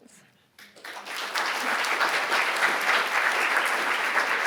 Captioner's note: audience applauding